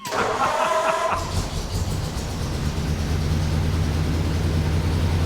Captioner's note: laughing; engine running